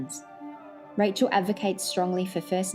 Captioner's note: none